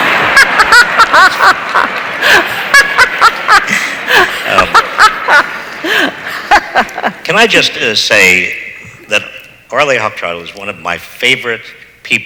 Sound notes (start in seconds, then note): 0.0 audience laughs; 0.0 laughs